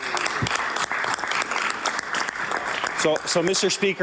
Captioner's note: applause